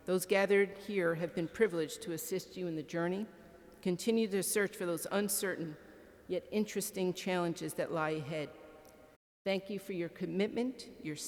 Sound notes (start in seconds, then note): none